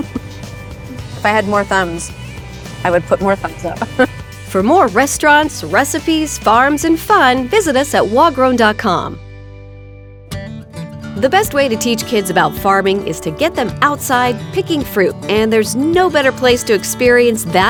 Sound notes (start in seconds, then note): 3.9 chuckling; 10.2 light-hearted guitar music